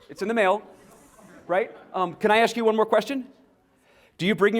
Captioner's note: laughter